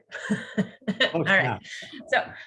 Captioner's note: participants laughing